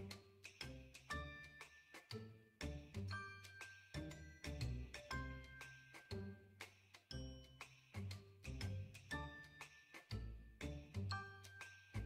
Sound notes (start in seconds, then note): none